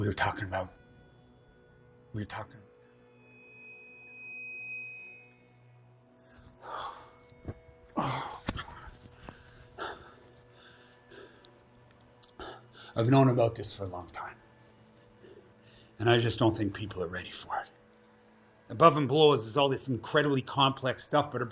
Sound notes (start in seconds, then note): 3.2 distorted beep